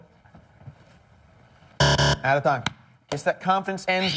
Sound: buzzer

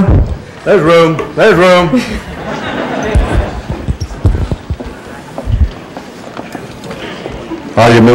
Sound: laughter

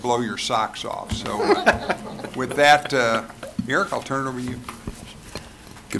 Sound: laughter

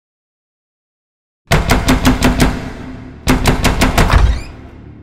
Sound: banging on door

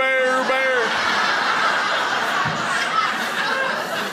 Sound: crowd laughs

